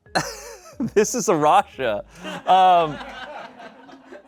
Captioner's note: people laugh